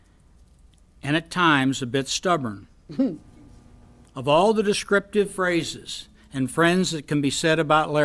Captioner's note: hmm